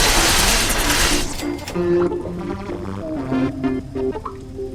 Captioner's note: Auto-Axe whirring. Trogs dying